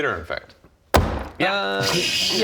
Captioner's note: angry table slap